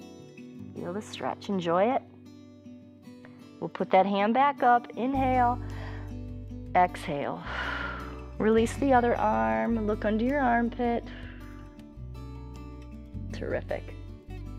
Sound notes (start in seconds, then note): 7.4 exhales